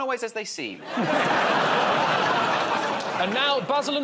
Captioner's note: laughter